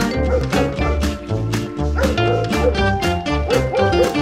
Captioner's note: dogs barking; upbeat music